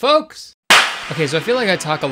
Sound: clapping loudly

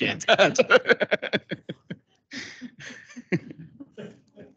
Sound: council members laugh

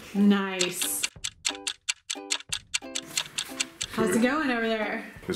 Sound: timer ticking

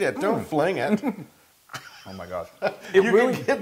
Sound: laugh

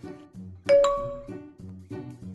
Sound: Messenger pings

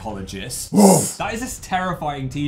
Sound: dog bark

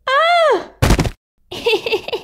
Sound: thud!

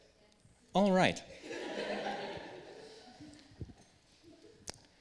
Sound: laughter

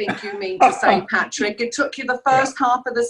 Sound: laughs

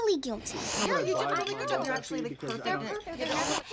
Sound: all chattering

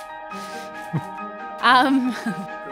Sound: clap; laughs

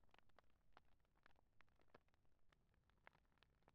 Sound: flames crackling

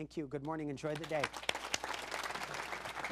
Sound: audience applauds

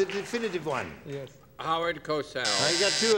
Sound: buzzer

